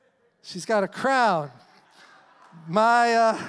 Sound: congregation murmuring; congregation cheering; congregation applauding

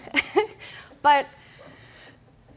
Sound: laughter

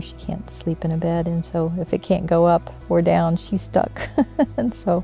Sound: laughs

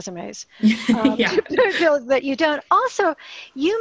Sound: laughter

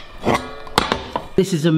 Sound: metal clanging

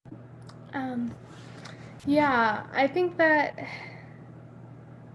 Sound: sigh

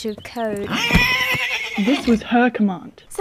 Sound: neighs

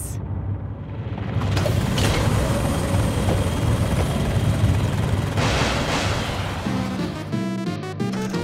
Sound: helicopter blades whirling; frantic orchestral synth music

